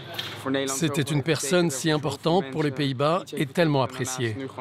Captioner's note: Dutch spoken audio